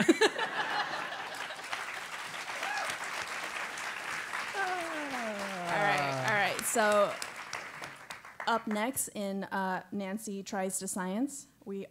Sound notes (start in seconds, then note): 0.0 laugh; 0.8 applause; 0.9 laugh